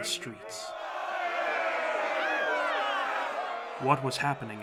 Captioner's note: people protesting